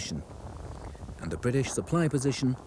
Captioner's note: earth rumbles